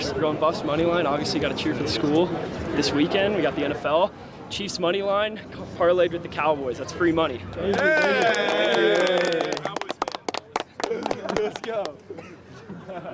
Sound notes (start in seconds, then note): 7.6 cheering, clapping